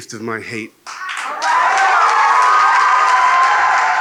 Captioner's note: cheers